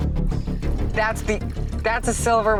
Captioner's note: liquid dripping